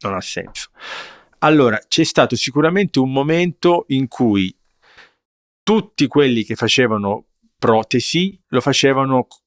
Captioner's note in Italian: sbuffare